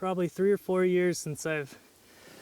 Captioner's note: voiceover